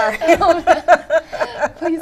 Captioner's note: laughter